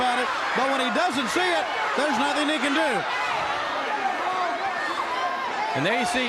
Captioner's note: crowd chatter